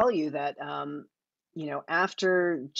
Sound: none

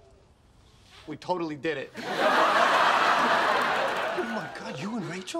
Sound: audience laughing

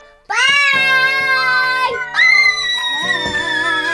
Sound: screaming

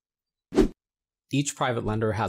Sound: air wooshes

